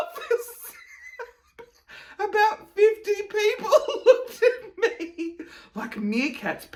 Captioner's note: chuckling